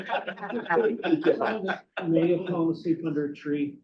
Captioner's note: board members laughing